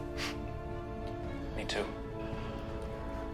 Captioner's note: laughs